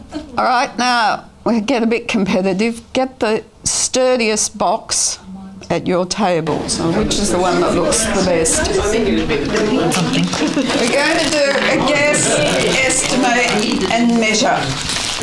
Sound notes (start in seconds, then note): 8.9 audience chatter